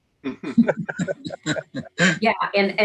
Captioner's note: participants laughs